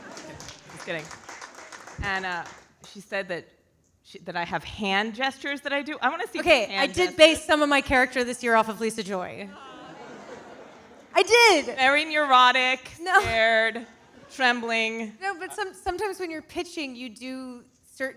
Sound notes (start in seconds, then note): 9.5 audience laughing